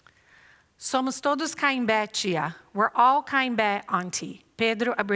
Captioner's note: non-english speech